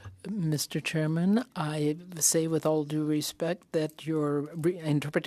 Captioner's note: speaking French